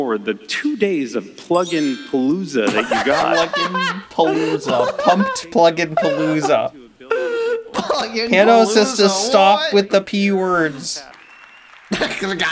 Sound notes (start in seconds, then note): 2.6 laughs in alliteration; 10.6 applause